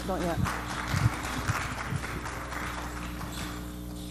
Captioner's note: audience clapping